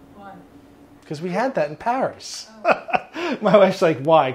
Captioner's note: laughs